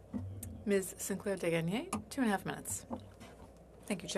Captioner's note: speaking French